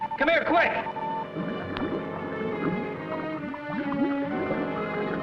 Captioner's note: bubbles gurgling